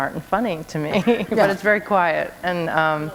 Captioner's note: chuckle